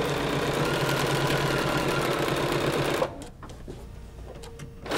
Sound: sewing machine whirring

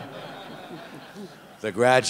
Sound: laughter

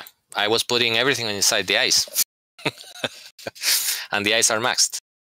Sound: laughter

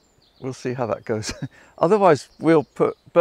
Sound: laughs

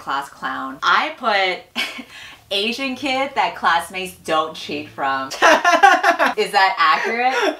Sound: laughs

